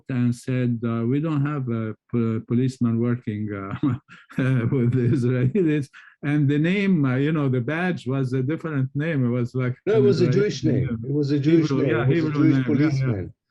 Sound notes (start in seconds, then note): 3.5 laughs